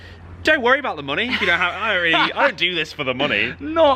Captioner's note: laughing